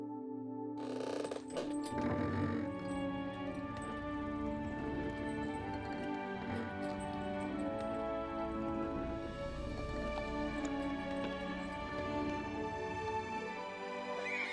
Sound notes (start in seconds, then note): 1.1 creaking; 7.8 music swells